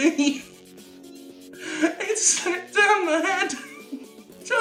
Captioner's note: laughs more; still laughing